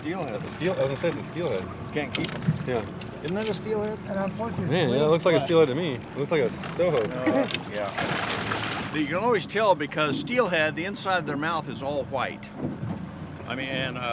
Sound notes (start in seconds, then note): 0.0 fish splashing; 7.2 chuckling; 9.3 fish splashing